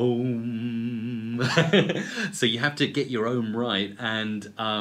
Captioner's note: laugh